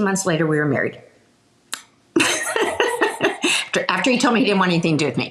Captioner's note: laughing